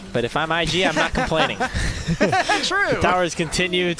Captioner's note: laughter